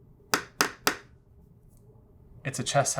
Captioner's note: tapping pen